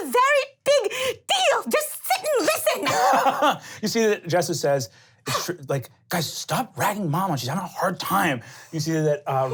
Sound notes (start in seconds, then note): 2.4 laughing